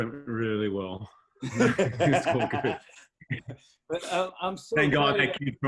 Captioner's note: laughter